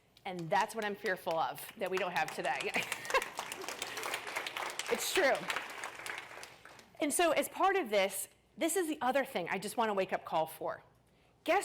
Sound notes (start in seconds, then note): 2.9 applause